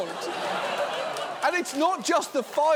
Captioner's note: audience laughs